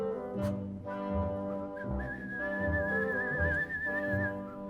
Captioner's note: whistles the melody